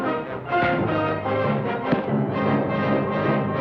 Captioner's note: thuds